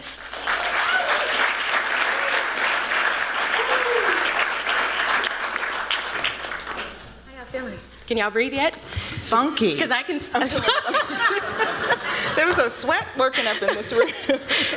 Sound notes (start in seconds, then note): 0.1 applause; 10.4 laughter